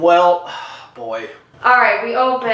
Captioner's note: sigh